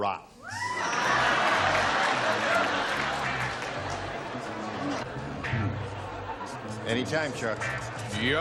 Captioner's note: cheers